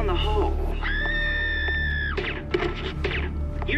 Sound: person screams, gunshots

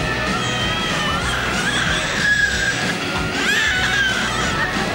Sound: baby crying

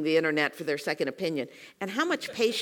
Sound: laugh

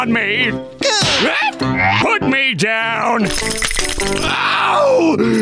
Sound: shrieking

